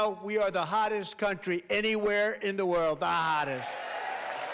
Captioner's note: applause